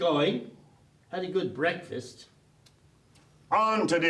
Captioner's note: stop chewing